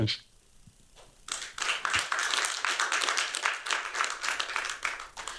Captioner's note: applause